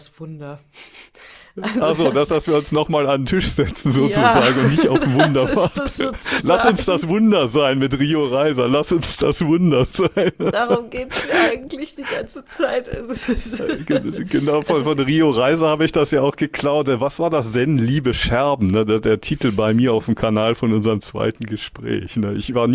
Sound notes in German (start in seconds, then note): 3.8 gelächter; 9.7 gelächter